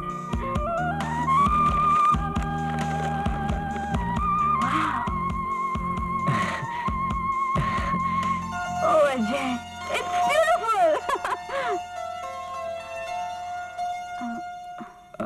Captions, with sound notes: Wow. Oh. Ajay. It's beautiful. (Laughs)